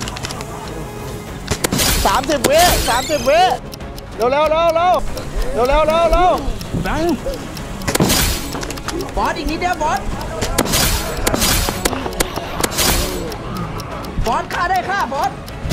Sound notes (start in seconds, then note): 1.6 gunshot firing; 8.0 gunshot firing; 10.6 gunshot firing; 12.7 gunshot firing